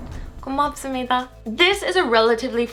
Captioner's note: whooshing; foreign language